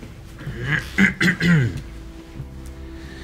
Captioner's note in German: räuspert sich